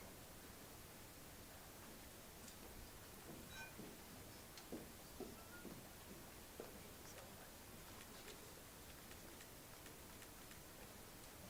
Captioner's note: applause